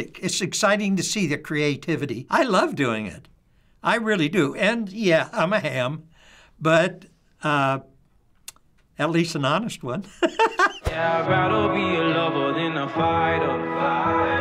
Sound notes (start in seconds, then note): 10.3 laughs